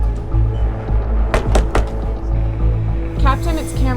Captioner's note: knocking